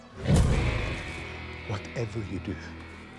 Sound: bear growls

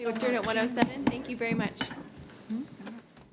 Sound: gavel taps

